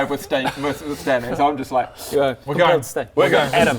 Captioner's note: slurp